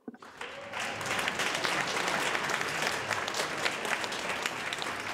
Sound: audience applauds

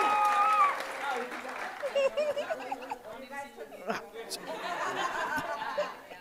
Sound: people chattering indistinctly

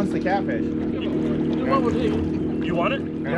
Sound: boat engine running; chuckling

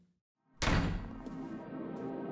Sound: door slams; mysterious music

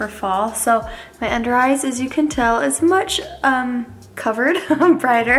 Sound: laughs

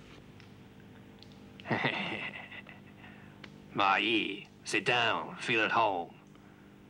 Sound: laughs

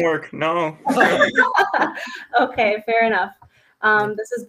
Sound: laughs

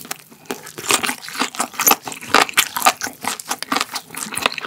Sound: crunch

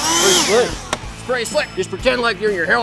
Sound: leaf blower running; slap

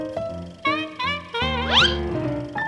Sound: trumpeting laugh

